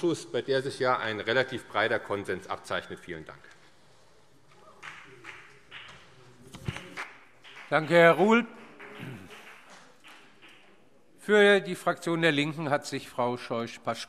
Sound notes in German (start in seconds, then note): 3.9 Beifall CDU und BÜNDNIS 90/DIE GRÜNEN